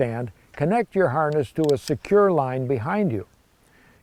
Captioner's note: harness clicks